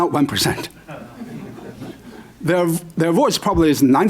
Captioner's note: laughter